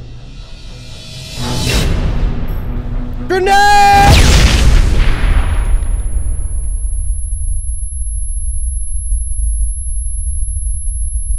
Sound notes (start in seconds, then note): 3.9 explosion booming; 8.4 tinnitus ringing